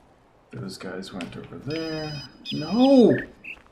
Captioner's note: ringing phone